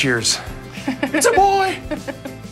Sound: laughs

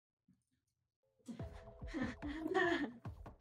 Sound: exclaiming softly

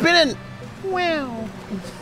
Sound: high pitched voice

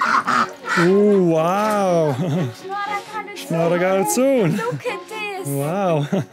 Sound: in Armenian

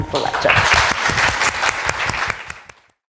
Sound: audience appluading

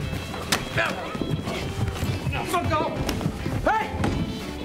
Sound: grunting

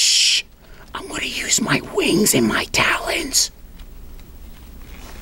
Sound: whispering

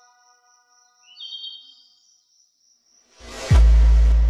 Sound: birds singing; bass pumping

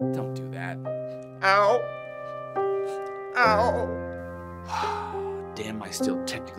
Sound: exhales loudly

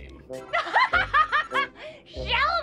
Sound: laughing

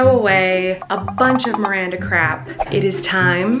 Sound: whooshing

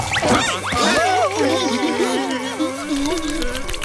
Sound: whimpering

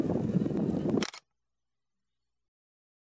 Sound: shutter clicks

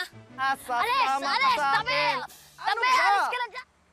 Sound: none

